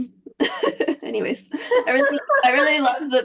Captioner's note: laughs; chuckles